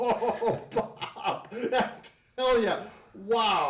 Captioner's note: laughing